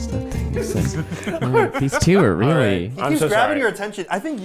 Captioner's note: people laughing